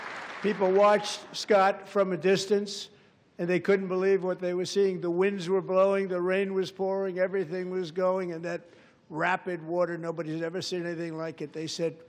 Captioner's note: applause